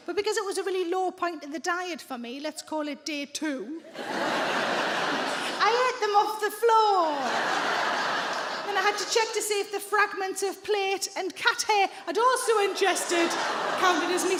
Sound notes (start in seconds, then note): 3.9 audience laughing